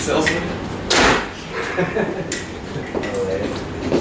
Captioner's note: laughter